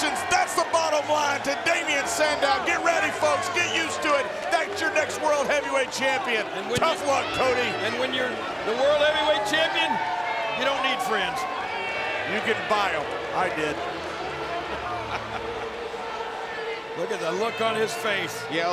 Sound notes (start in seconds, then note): 14.8 Jerry chuckles